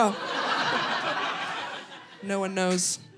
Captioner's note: audience laughing